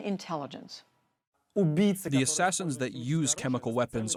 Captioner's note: through translator